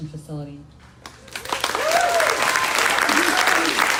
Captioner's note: crowd cheering